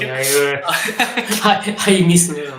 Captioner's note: laughs